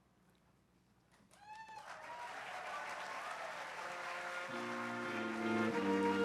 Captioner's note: applause